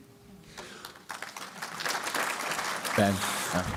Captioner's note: applause